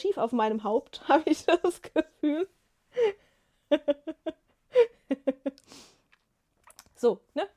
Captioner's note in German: gelächter